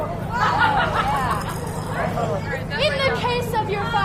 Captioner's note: audience laughter